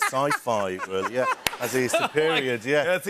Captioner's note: laughter